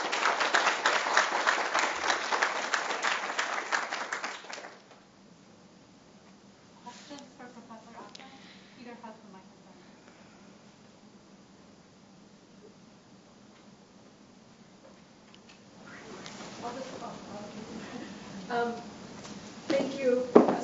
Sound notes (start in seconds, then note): 0.0 applause; 6.3 background Conversation